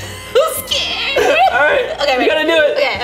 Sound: laughing

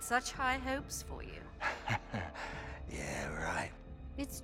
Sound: laughs

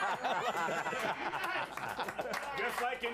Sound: laughter

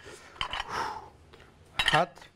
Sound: exhales forcefully

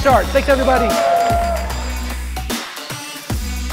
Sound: cheering; upbeat music playing

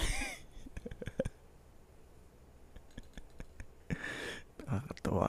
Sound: continues laughing

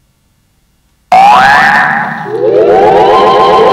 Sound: alarm rings; dramatic music

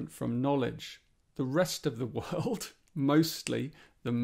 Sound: chuckles

